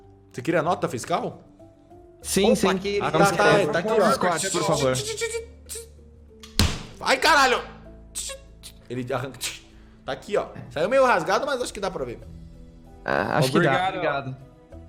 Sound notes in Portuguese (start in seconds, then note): 4.3 imitando caixa registradora